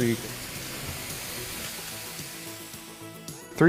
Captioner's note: pots sizzling